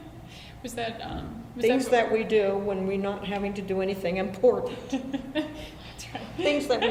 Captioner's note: laughs